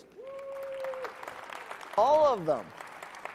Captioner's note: audience clapping